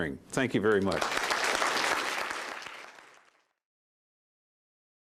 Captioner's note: applause